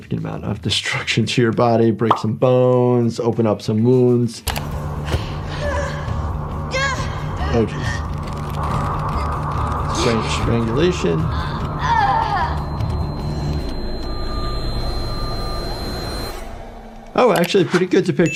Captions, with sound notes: of destruction to your body. Break some bones, open up some wounds. (person gasps) - Okay, strange strangulation. (person moaning) Oh, actually a pretty good depiction.